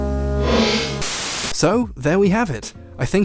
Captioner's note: white noise hissing